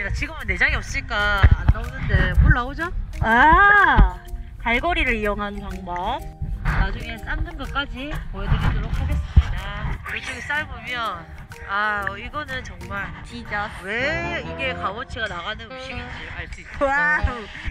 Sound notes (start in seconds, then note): 16.4 sassy